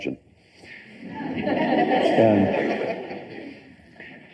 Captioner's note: laughter